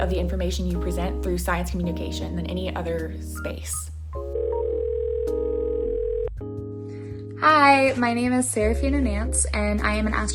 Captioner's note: phone ringing